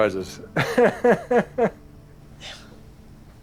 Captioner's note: laughs